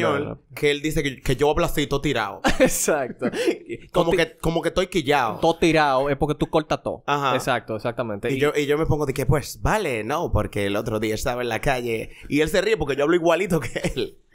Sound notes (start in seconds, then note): 2.5 laughs; 8.8 spanish imitation